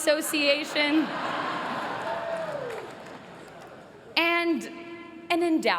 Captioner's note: laughter